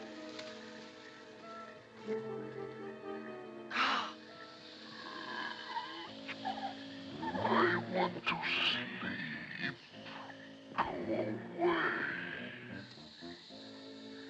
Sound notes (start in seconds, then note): 0.0 ominous music; 4.5 snake groans